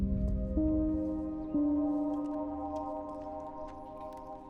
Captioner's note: birds chirping